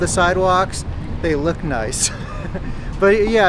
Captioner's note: chuckles